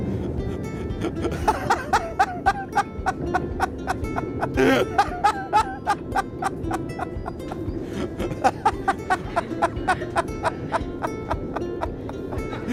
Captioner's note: small Laughter; building Laughter